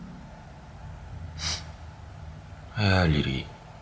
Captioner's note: sniff